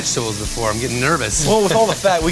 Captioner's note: laughs